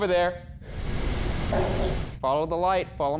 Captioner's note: knocking